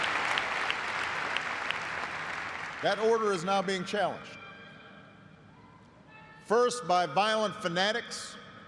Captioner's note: applause